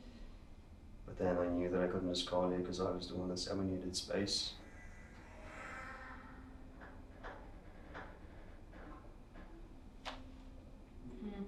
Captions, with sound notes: But then I knew I couldn't just call ya, because I was the one that said we needed space. [distant sound of babies cry]